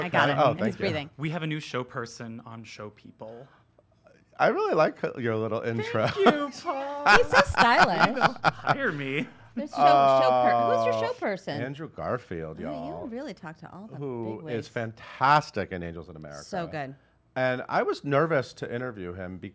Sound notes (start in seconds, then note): 5.8 laughter